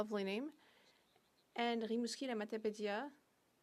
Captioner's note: speaking French